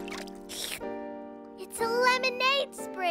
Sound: slurping

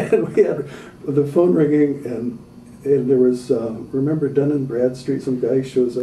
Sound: mixed laughter

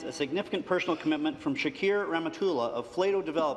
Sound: speaking French

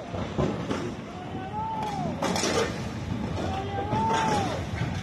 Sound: bridge cracking and crashing

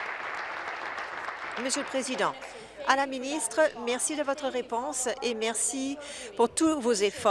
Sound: applause

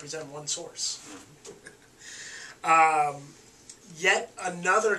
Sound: laughing

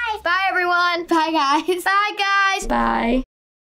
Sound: chuckles

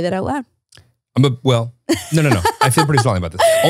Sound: laughing

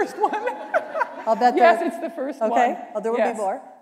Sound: laughter

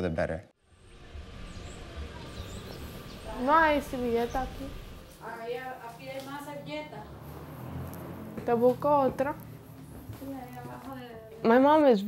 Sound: speaking in Spanish

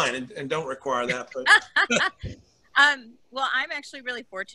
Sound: laughing

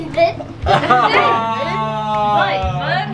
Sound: laughing

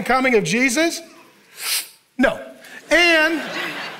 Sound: congregation laughing

